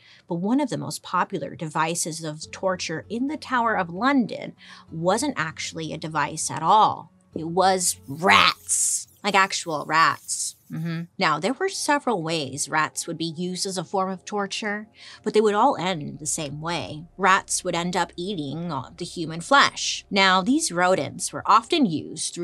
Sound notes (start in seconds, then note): 10.4 rats squeaking